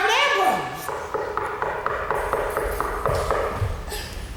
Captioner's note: knuckles rapping